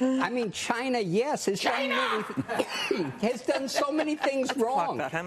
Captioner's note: laughter